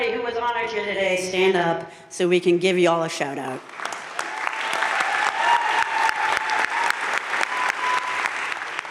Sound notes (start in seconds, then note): 3.6 audience cheering and applauding